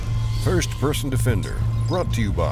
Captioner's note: voiceover